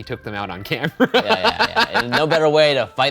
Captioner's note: laughing